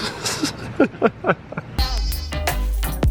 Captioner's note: laughs; lively music